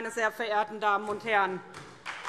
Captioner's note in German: Beifall